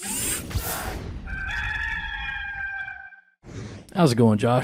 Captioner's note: rooster crowing